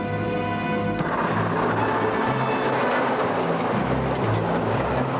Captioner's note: kereta bergemerincing